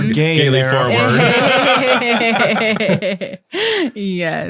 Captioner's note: all laughing